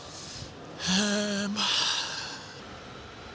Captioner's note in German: Seufzend